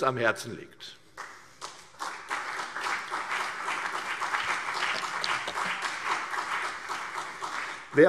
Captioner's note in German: Beifall CDU und BÜNDNIS 90/DIE GRÜNEN